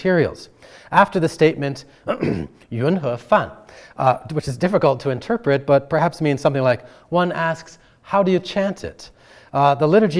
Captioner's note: clears throat